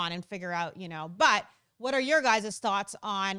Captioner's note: none